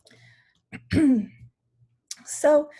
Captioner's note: clears throat